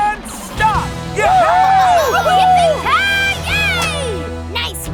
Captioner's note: cheering